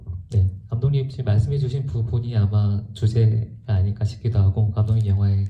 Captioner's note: speaks in foreign language